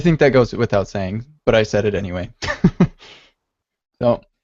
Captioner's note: laughs